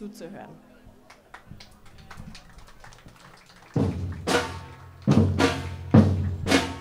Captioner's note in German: Applaus